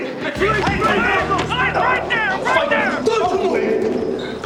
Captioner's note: shouting